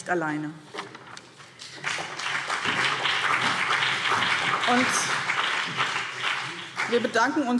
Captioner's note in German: Beifall BÜNDNIS 90/DIE GRÜNEN und vereinzelt CDU